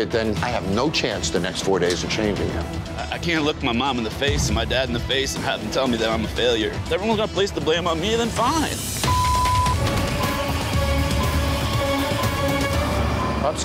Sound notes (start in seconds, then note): 9.0 beep; 10.0 suspenseful music